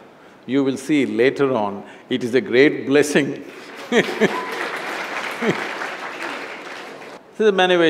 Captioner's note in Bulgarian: Смях/Ръкопляскания; Смее се